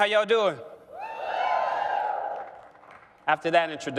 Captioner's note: cheering